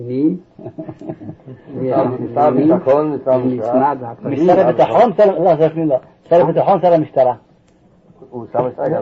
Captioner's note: laughing